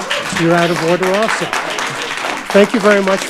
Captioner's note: audience applauding